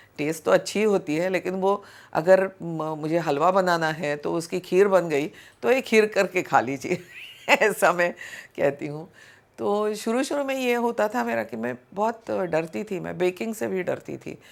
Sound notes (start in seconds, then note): 7.0 chuckles